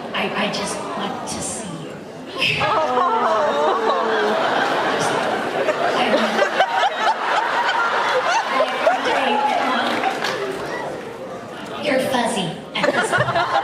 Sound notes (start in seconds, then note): 7.0 laughs; 9.8 laughs